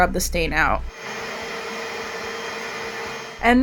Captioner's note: loud vacuum cleaning